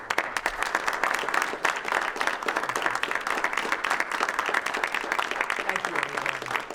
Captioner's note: applause